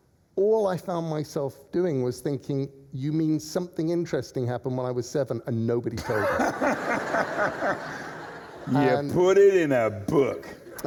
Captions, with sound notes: All I found myself doing was thinking, you mean something interesting happened when I was seven — and nobody told me? — (LAUGHTER) You put it in a book!